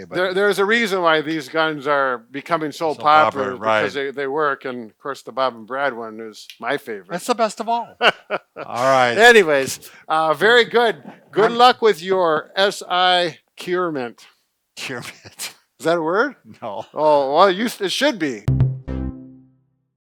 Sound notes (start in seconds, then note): 7.9 laughing